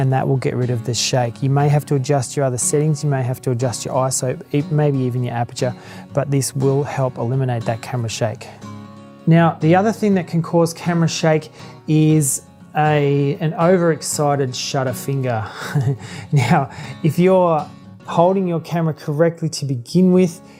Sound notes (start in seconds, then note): 15.4 laughs